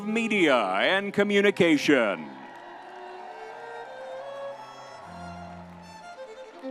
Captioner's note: crowd cheering